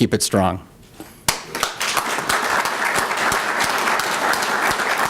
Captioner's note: applause